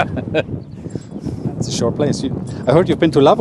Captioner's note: Sadhguru laughs